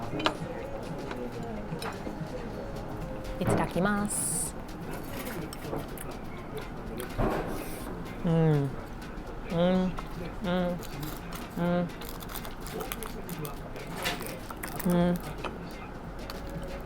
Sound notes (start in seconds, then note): 3.5 speaking Japanese; 8.4 repeating mmms